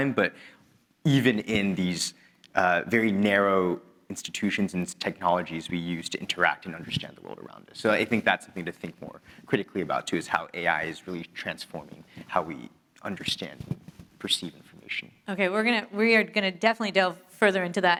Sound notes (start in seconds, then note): none